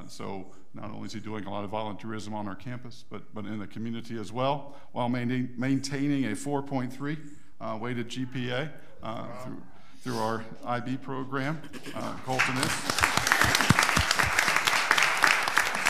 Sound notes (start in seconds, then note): 12.2 audience applauds